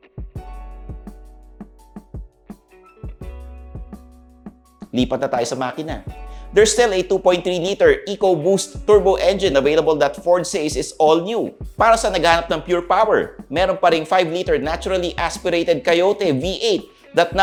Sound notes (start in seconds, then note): none